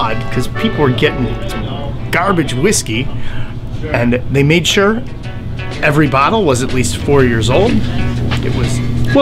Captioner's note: talking